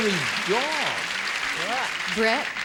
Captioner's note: applause